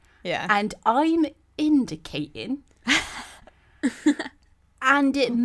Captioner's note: laugh